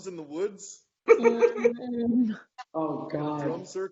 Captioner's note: laughing